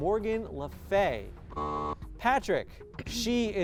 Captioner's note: buzz